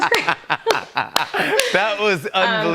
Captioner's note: laughter